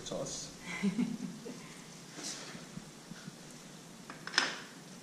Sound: blonde woman laughs

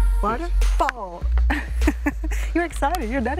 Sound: laughs

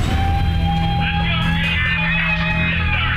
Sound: cheering

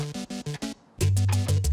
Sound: bonk

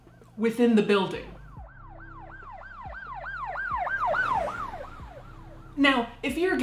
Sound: gentle dramatic music; siren wailing

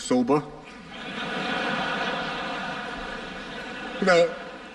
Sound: laughter

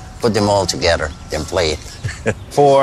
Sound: chuckling

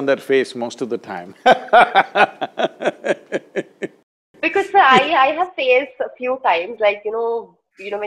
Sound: laughs

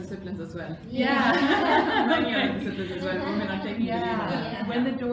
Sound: laughter

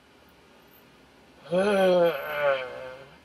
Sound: grumbling

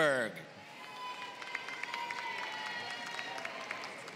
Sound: applause

